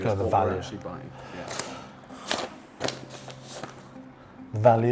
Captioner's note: paper crinkling